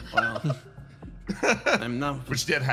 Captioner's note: laugh